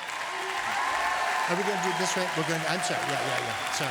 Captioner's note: applause